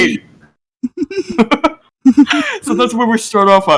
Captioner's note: giggling ensues